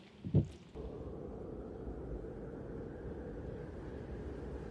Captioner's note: wind howling